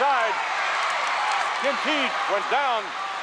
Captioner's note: audience cheers